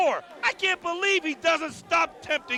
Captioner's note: crowd chatter